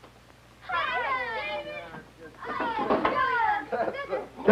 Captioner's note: delighted chattering